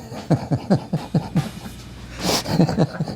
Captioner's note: laughing